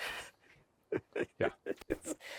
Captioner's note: speaker laughing